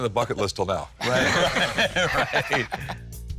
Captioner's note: all laugh